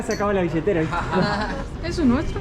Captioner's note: laughs